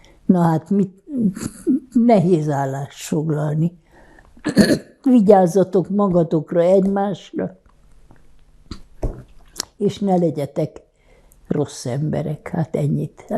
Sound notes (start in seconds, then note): 4.4 clears throat